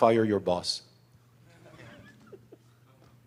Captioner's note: laughter